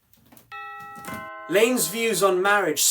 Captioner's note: doorbell rings